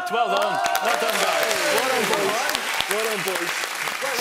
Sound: cheering

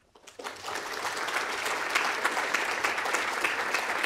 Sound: audience applauds

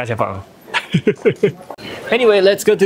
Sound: laughs

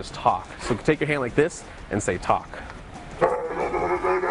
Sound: leon barking

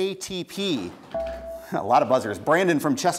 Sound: buzzer beeps

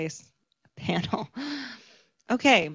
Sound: laughs

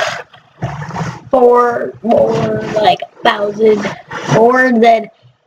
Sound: nerdy voice

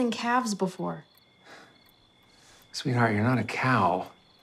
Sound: sighs

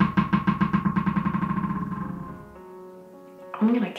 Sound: dog ball bouncing

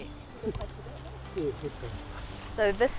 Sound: background chatter

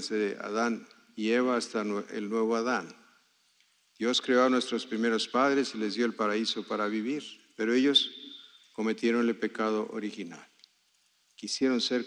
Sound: speaking spanish

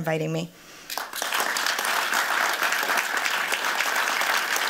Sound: applause

